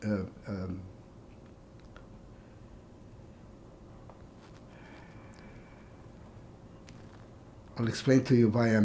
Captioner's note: pauses 6 seconds